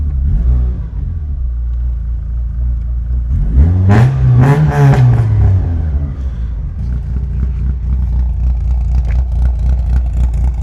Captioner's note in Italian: rombo del motore